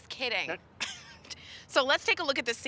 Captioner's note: chuckling